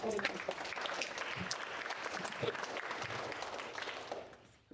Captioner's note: audience applauding